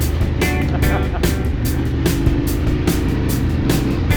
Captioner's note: laughing